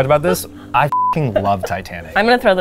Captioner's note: beeps; laughs